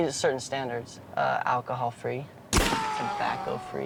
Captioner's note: gunshot fires